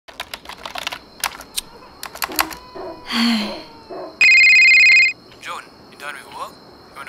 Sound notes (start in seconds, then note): 0.1 typing; 2.7 sighs; 4.2 phone ringing